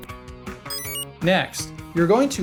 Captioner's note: enter chime